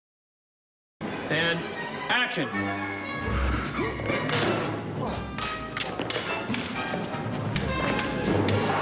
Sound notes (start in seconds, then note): 3.2 grunting